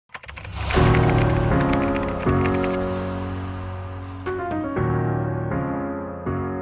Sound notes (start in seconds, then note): 0.0 typing Sound